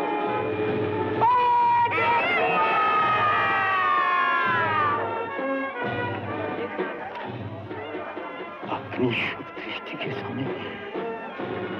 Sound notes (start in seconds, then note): 1.2 all Cheering